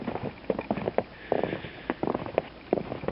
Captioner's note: crunching snow